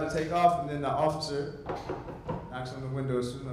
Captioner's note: knocks